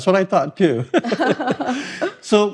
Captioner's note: chuckling